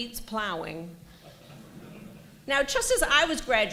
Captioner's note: laughter